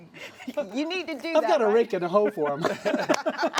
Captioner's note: laughs